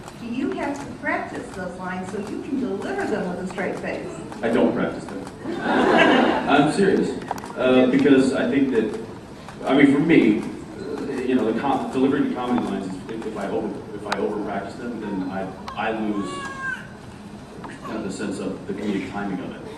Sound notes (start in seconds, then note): 5.4 laughs